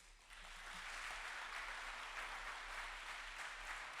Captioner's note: audience applauds